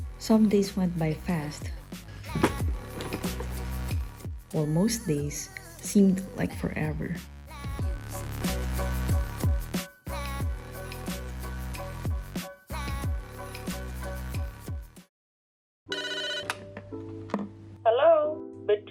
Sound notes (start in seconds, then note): 15.9 phone rings